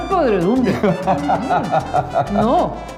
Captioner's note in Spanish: laugh